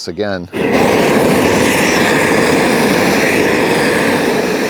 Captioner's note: torch roaring